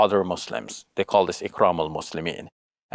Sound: speaks Arabic

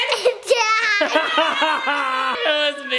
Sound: laughing

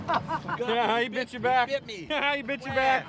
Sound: laughing

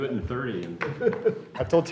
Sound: laughter

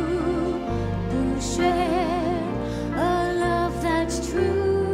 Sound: none

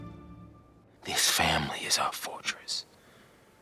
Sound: whispering

